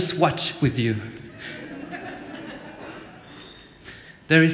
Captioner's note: laughter